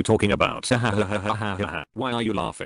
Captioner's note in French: nerveux